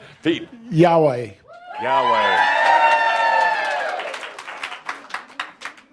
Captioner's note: audience approval and some applause